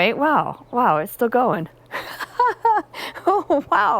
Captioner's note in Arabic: يضحك